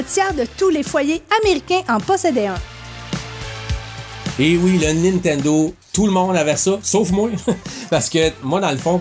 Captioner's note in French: rire